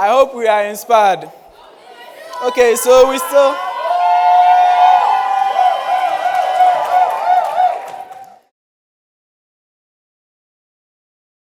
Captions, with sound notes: I hope we are inspired. Okay, so we still (crowd cheering)